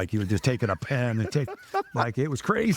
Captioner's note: laughing